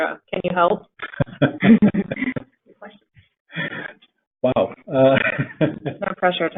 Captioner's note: laughter